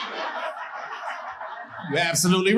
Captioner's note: audience laughing